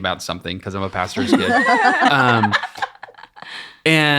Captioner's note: ladies laughing